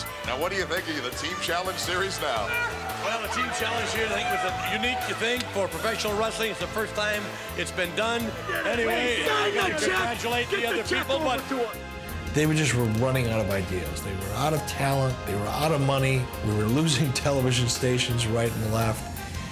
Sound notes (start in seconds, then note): 10.7 wrestler chattering